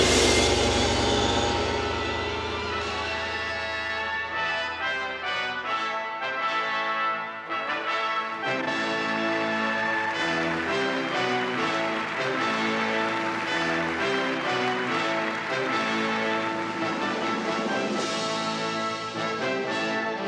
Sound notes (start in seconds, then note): 0.1 gong resounds; 3.1 stately music; 10.8 audience applauding